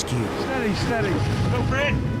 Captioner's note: engine whirring